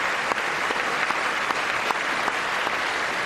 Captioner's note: applause